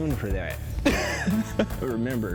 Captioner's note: laughs